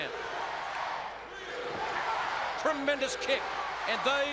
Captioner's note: crowd cheering